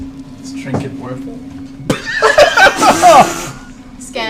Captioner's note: laughter